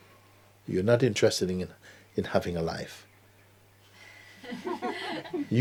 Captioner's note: laughter